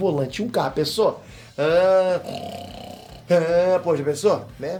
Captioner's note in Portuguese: dirigindo carro e roncando